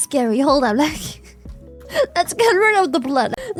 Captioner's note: laughs; laughs